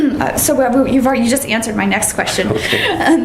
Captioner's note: laughter